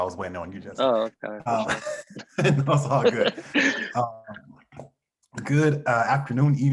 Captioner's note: laughs